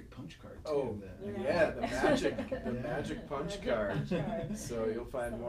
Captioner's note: laughing